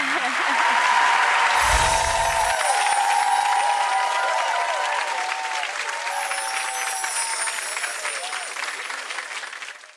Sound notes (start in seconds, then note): 0.1 audience clapping and cheering; 1.5 closing chimes